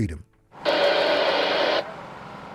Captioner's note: radio static